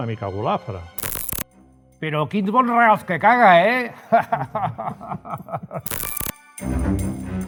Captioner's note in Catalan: riures